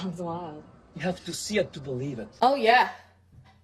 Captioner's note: JCVD has a Belgian accent